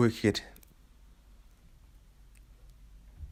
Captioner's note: epic silence